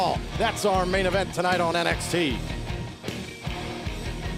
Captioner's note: none